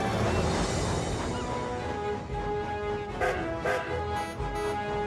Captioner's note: connor whistles; philip honks horn